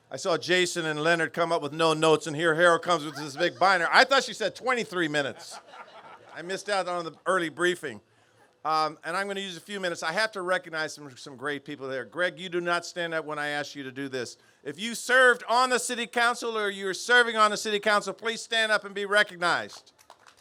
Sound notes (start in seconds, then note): 5.1 laughter